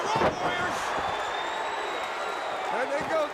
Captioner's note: crowd cheering